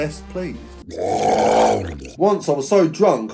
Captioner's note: growling